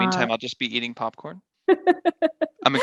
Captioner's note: laughing